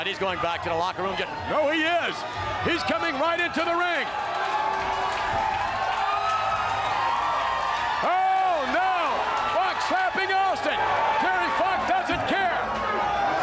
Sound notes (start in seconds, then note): 4.5 crowd cheering